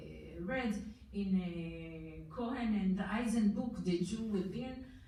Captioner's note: foreign language